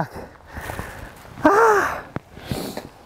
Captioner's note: deeply Exhales